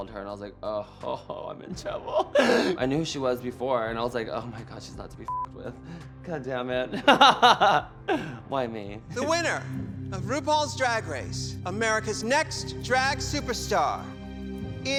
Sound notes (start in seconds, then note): 5.3 beep; 7.0 laughs